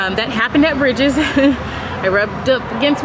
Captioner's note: laughing